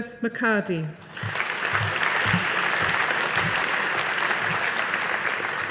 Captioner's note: audience applauding